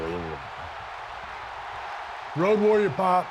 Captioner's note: crowd cheering